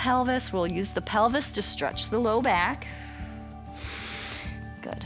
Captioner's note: exhales and inhales